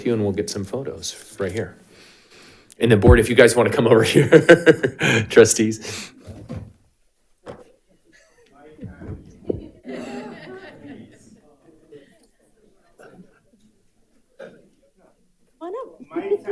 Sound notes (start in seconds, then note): 4.2 laughing; 11.0 audience laughs